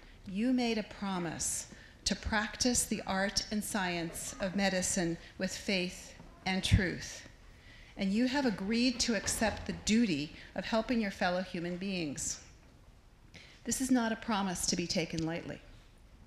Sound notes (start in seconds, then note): none